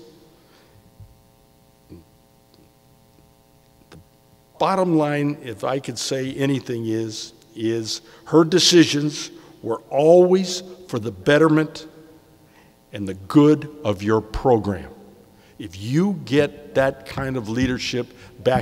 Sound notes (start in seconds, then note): none